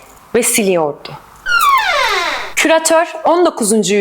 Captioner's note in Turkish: kapi kapanma sesi̇